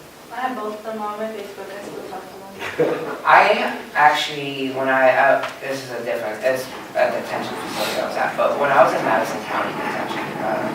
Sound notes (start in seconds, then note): 2.6 laughter